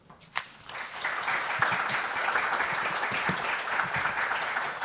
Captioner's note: audience applauds